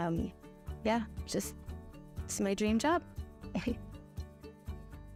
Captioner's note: laughs; gentle music